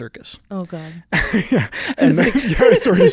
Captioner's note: laughing